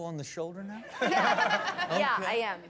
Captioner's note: laughter